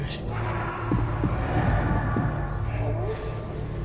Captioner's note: voice growls